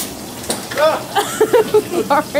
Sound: camera man shouts; laughing

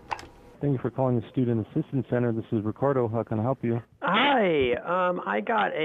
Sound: phone call

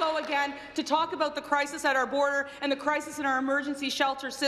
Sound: applause

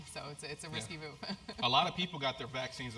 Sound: laugh

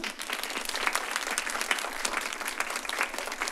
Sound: applause

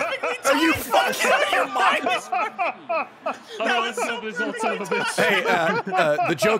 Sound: everyone laughing

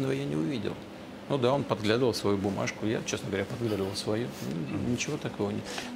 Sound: Putin speaking in Russian

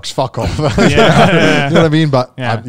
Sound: all laugh

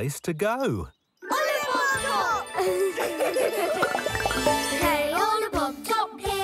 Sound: giggling

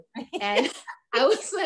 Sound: laughing

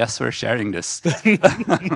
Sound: group laughing

